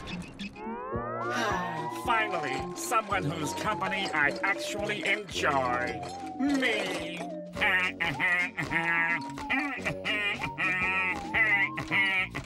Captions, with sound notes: [sighing] Finally, someone whose company I actually enjoy... Me! [laughing]